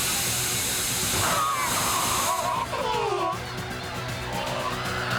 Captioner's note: yelling in alien language